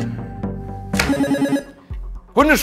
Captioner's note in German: Buzzer